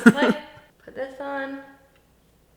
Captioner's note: laughs